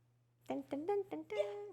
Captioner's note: humming